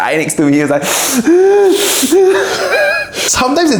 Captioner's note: imitates sobbing